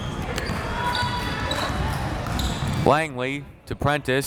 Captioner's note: crowd members shouting